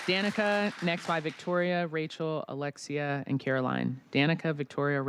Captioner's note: applause